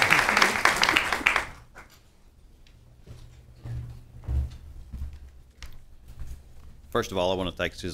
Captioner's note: applause